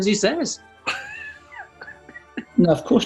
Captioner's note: chuckling